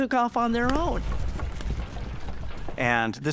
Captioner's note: hooves thudding